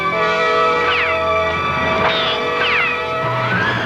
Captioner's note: gunshots